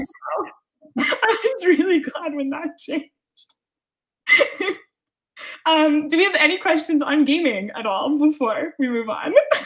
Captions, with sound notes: I was really glad when that changed. (laughing) Do you have any questions on gaming at all before we move on?